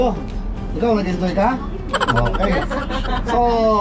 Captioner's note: laugh